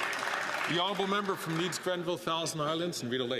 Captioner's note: some Applause